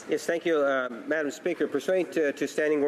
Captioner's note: speaking French